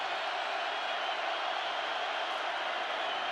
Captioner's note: crowd cheering